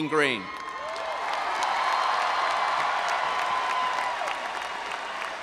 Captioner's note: audience applauding and cheering